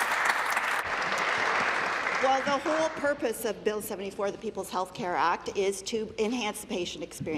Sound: applause

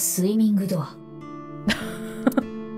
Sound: chuckles

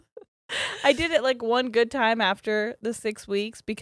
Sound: laughs

